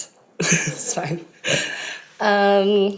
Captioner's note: laughs